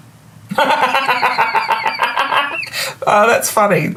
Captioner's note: belly laughs